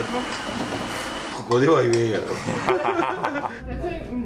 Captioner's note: laughs